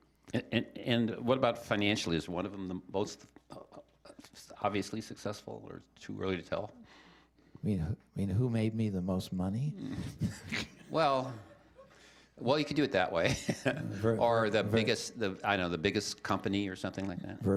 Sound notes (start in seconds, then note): 9.8 chuckling